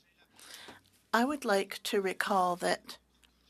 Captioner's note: speaking French